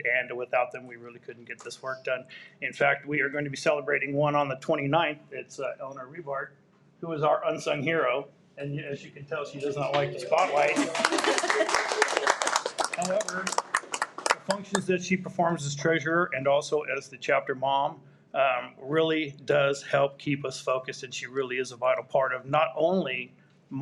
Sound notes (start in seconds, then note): 10.3 everyone applauds